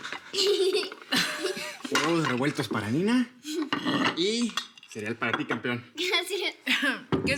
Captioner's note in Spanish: Risas